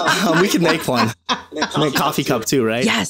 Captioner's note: laughing